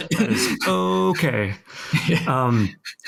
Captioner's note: all laughing